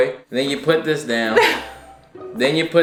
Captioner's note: laughing